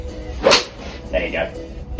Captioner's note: club whacks